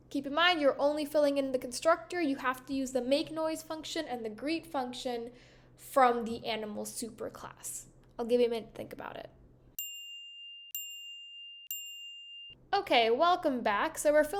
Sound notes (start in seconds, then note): 9.8 timer chiming